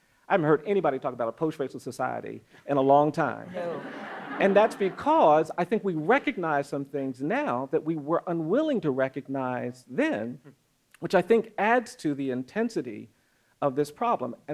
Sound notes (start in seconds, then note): 3.5 audience laughs